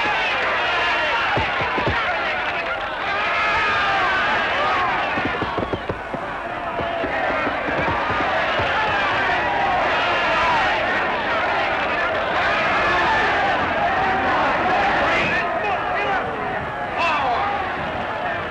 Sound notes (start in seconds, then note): 8.4 cheering; 13.0 shouting